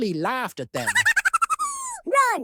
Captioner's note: high-pitched laugh